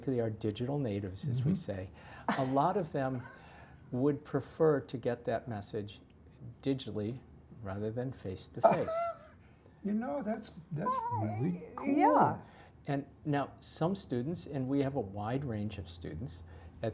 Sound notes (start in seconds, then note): 8.6 laugh